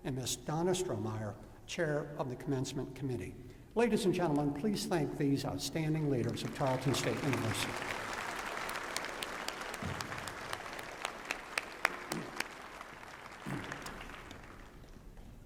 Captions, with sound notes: And Ms. Donna Strohmeyer, Chair of the Commencement Committee. Ladies and gentlemen, please thank these outstanding leaders of Tarleton State University. [APPLAUSE]